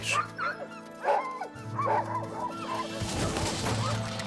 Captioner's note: dogs barking